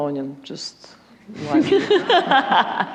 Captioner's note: laughter